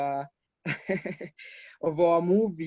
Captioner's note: laughs